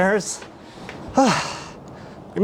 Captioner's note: sighs